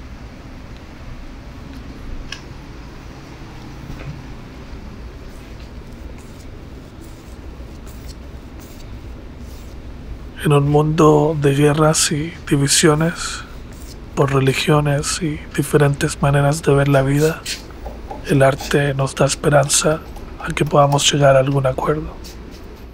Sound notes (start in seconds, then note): 3.1 brush whooshing; 10.7 narrator speaks Spanish; 18.3 narrator continues to speak Spanish